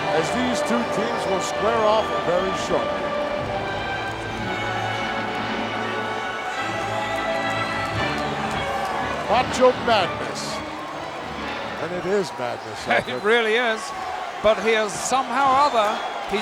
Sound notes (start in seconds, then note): 7.1 audience cheering